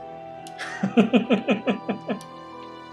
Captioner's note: laughs